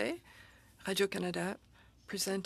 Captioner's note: speaking French